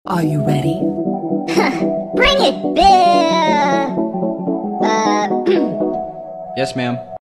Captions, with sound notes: Are you ready?~ HAH Bring it biiiiiiiiiiiiiiiii................. uuuuuuuuuuhhhhhhhhh *clears throat* ｙｅｓ ｍａ＇ａｍ